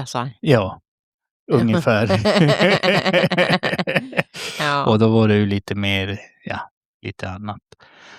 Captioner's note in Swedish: skratt